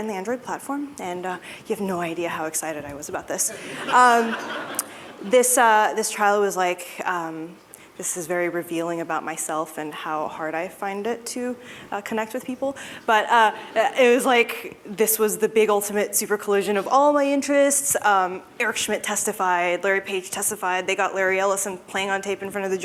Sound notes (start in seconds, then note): 3.5 laughter